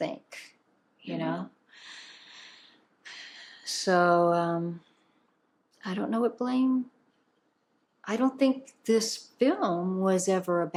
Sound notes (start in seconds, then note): 4.2 sighing